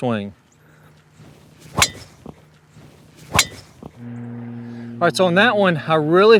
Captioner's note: golf ball clunking